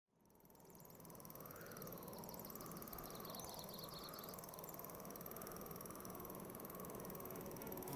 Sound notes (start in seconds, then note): 2.6 birds chirping